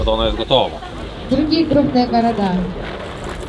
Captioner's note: voice coming from speaker